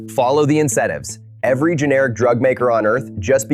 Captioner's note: excited